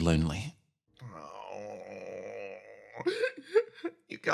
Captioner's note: Yaiyo Groan